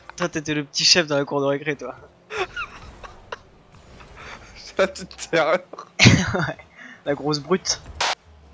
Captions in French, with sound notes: Toi, t'étais le p'tit chef dans la cour de récré, toi (Rires) La p'tite terreur Ahaha, ouais la grosse brute